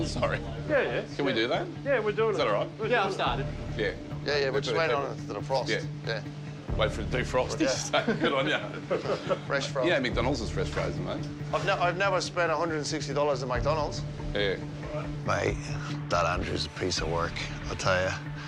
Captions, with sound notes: Sorry? Yeah. Can we do that? Is that alright? Yeah, we're doing it. We're doing it. Yeah, I've started. Yeah. Yeah, yeah. we're just waiting on it to defrost, yeah. Waiting for it to defrost. (LAUGHS) Good on you. Fresh frozen. You know McDonalds is fresh frozen, mate. I've never spent $160 at McDonalds. Yeah. Mate, that Andrew's a piece of work, I tell you.